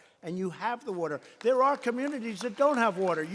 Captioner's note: applause